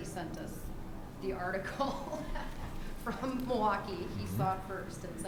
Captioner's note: laughs